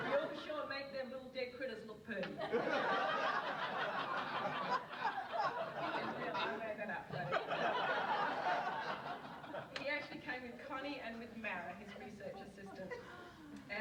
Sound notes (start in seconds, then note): 0.0 audience laughs; 2.4 audience laughs